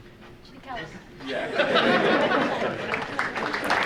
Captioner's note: audience laughing; audience applauding